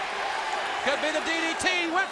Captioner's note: crowd cheering